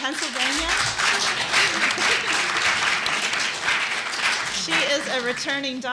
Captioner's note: applause